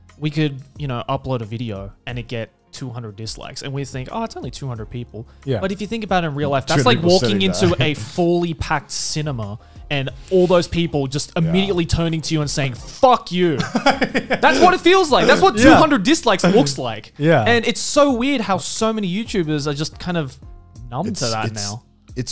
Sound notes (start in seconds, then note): 13.5 laughs